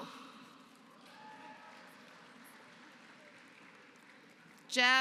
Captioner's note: applause